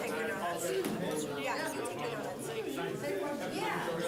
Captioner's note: chatter